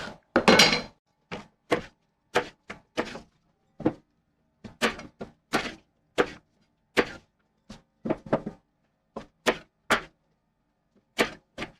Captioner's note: knife cutting